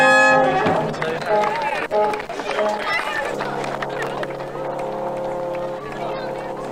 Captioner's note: people chattering; gentle music